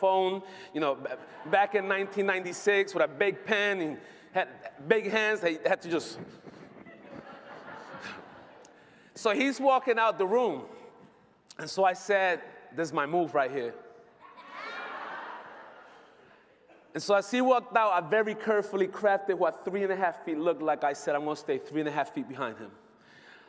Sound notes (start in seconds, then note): 14.2 laughter